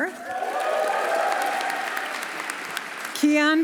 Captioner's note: audience cheering; audience applauding